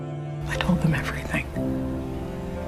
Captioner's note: voiceover